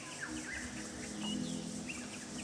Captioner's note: birds chirping; gentle music